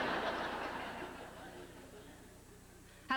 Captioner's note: laughter